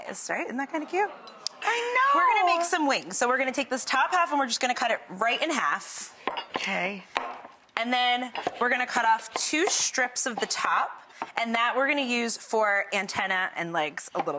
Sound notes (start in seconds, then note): 0.7 audience awing